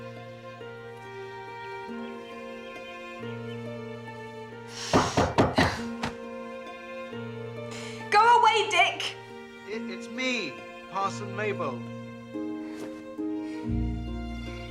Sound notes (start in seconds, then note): 0.1 somber music; 4.9 knocking at door